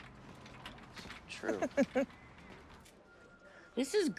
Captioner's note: Doris laughs